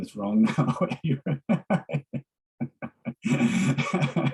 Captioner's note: laughs